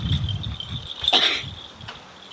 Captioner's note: caugh